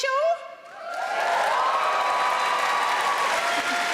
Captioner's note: audience cheering; audience applauding